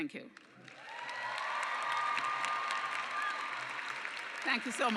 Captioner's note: cheers and clapping